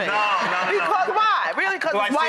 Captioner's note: audience laughs